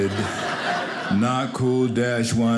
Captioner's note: audience laughing